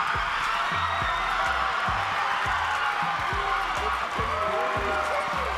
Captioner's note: audience cheering and clapping